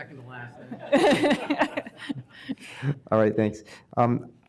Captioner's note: laughter